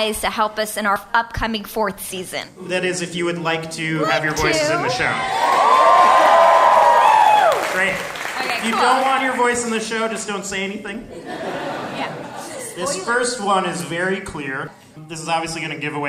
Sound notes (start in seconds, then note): 4.1 cheers and applause